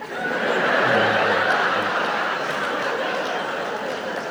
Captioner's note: audience laughs